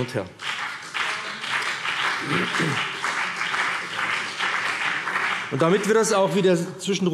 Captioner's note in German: Beifall BÜNDNIS 90/DIE GRÜNEN - Zuruf DIE LINKE